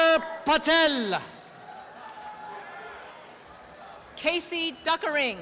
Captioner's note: applause and cheering